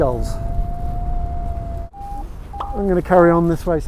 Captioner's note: Vario beeps